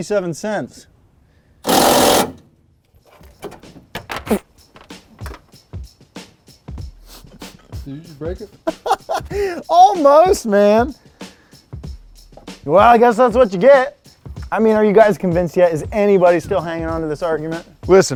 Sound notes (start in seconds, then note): 1.6 drill buzzes; 8.6 laughing